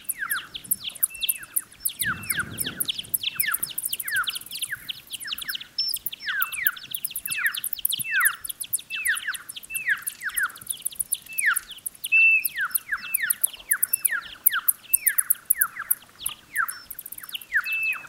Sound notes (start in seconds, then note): 7.3 high chirping, repeated